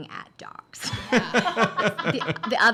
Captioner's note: laughing